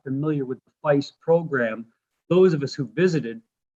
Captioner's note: voice fades